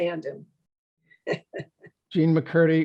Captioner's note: laughs